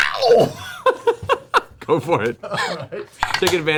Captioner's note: heavy metal screaming; laughs